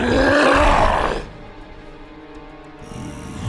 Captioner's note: snarling